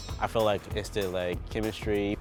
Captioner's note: chimes